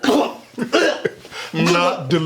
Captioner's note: gags loudly